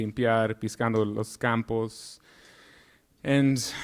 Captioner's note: speaking in Spanish